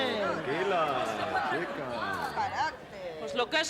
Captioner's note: protests